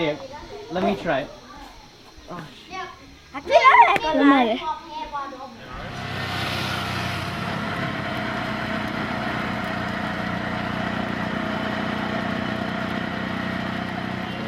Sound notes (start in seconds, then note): 0.1 foreign language; 3.7 foreign language; 5.6 car rustling